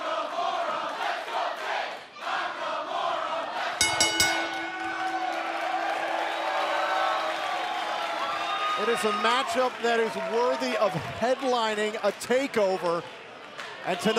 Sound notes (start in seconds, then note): 0.0 fans chanting; 3.8 bell ringing